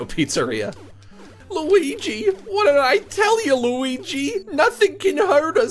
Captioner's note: goofy voice